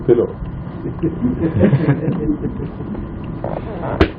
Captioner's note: laughter